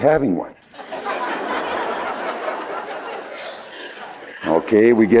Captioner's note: laughter